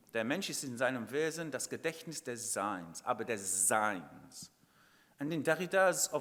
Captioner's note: speaking in foreign language